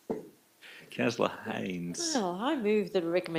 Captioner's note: chuckles